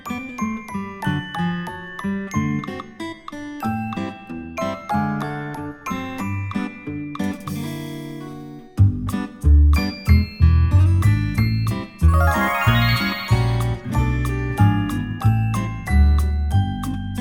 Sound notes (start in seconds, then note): 0.0 calm, playful music; 12.0 sparkles sound effect